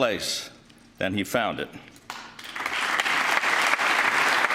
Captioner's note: applause